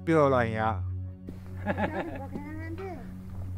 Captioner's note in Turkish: Kahkaha